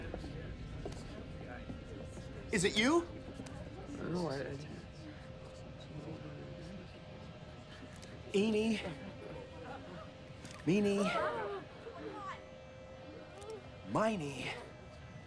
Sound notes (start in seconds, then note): 3.3 man mumbles